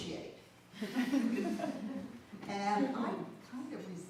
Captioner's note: audience laughs